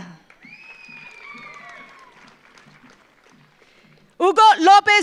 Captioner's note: audience applauds